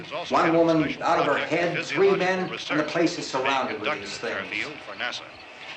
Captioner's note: none